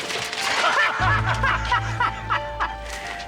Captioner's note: Bridges and Dominguez laugh